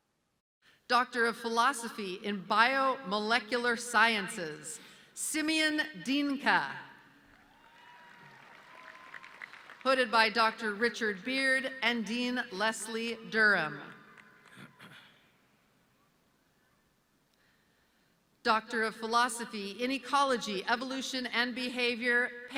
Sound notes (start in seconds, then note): 7.4 audience cheering